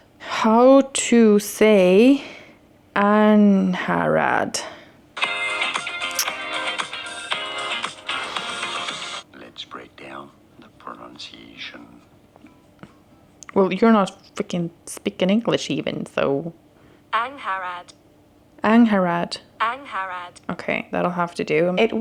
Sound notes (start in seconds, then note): 5.2 music playing from phone; 9.3 man on video on phone